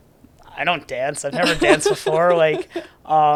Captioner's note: laughs